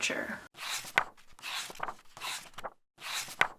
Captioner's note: pages turning